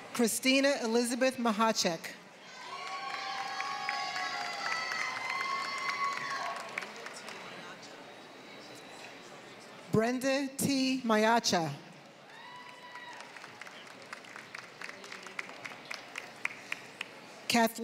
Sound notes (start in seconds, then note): 2.6 applause; 12.2 applause